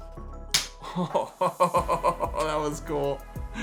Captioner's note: ping pong ball clacks; laughs